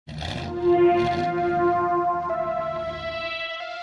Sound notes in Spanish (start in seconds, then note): 0.1 motor de auto avanzado